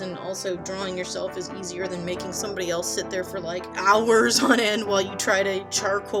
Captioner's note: giggles